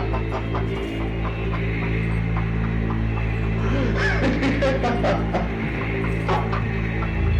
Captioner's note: Jones laughing